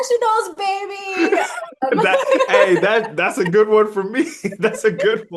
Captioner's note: start laughing